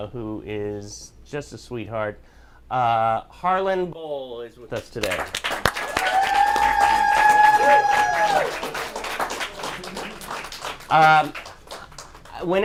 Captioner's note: applause